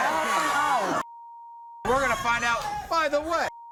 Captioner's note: beep